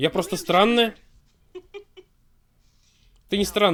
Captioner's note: laughs